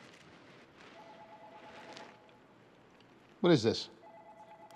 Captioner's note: telephone ringing